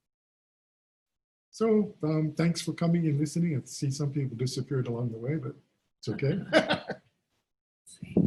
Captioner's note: laughs